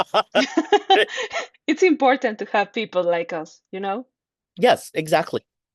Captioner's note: laughs